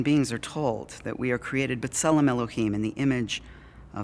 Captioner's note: Hebrew